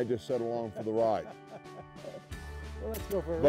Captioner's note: laughter